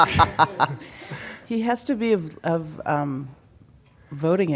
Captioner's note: laughter